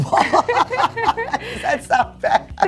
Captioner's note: laughs